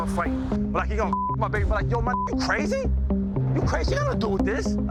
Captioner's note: beep